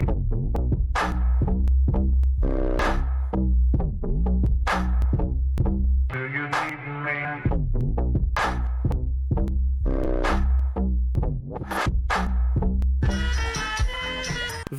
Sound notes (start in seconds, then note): none